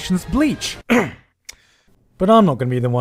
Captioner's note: clears throat; clicks tongue